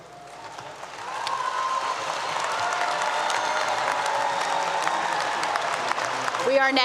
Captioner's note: applause 👏 👏